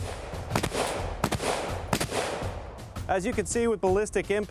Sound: shooting

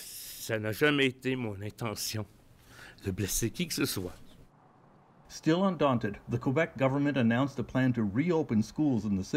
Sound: speaking French

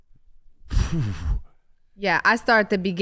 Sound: Iman sighs

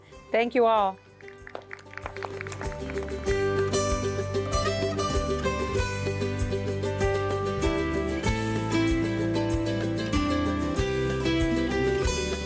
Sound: applause

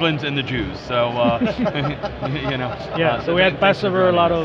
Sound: all laugh

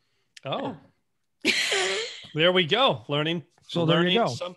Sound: laughs

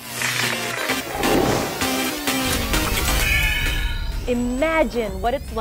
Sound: sound Effects

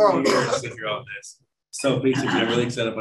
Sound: laughter

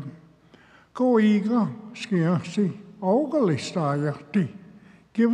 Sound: speaks Cherokee

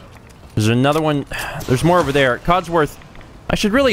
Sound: sigh

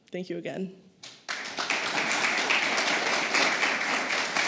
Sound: applause

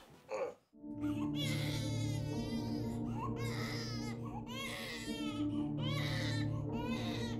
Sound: baby crying

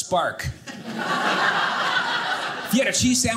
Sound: audience laughing

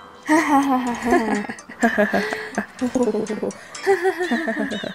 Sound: everyone laughing

